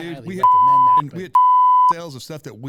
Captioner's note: beep